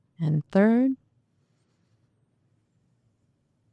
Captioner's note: breathing